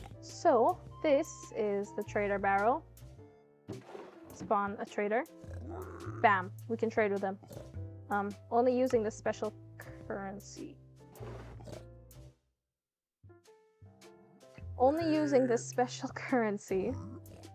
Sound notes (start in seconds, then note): 0.0 more sounds of sudden piglin death; 10.5 trails off